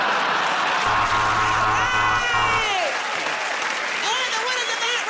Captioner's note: laughter; buzzer